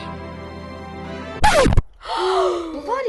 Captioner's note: EVERYONE gasps